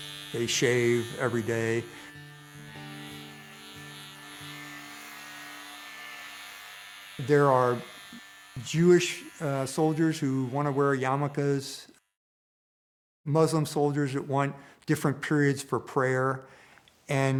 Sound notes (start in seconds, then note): 3.8 buzzing sounds